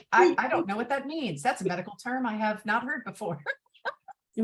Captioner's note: both laugh